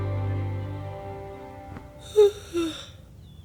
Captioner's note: blankets moving